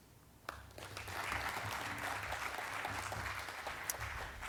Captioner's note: audience clapping